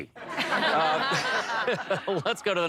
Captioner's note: laughter